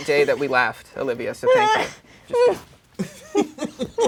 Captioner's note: laughs; laughing